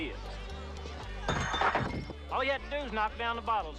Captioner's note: bottles clanging